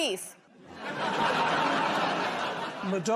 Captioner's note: laughter